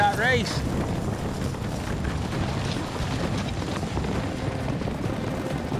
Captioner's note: fast hoofbeats